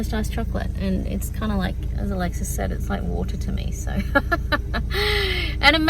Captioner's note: laughs